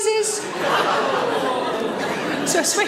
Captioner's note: audience laughs